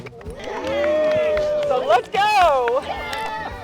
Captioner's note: campers cheering